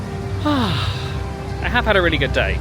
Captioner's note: sighs happily